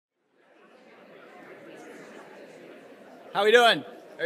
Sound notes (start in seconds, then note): 0.1 people chattering